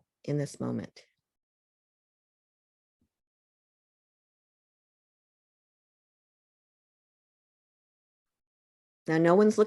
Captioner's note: silence